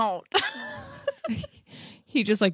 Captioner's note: laughs